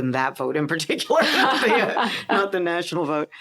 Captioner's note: laughter